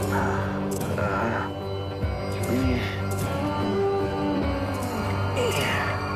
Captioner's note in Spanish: Gemidos